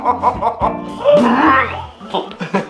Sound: throwing up sounds

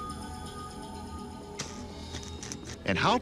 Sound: crackling

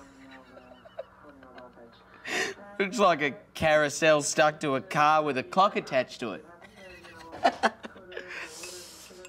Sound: yelling; laughs

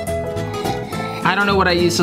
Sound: slurps

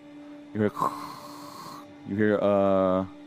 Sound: static noise

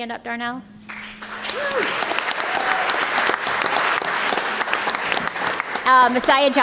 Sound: applause

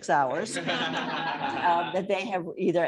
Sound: laughter

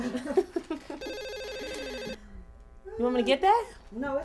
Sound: both laughing; phone ringing

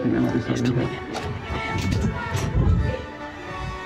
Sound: whispering

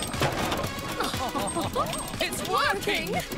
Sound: laughing

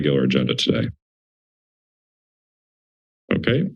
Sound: silence

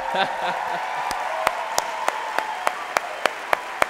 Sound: applause; laughing

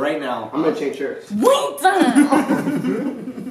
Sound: laughter

